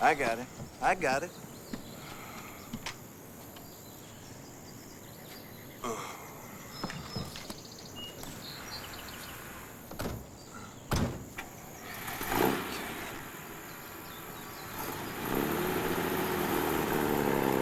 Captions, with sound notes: I got him, I got it. (truck engine revs)